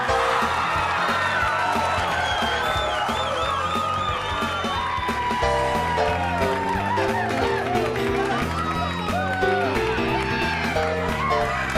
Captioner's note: crowd cheering